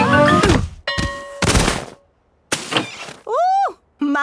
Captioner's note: exclaiming and grunting; bell ringing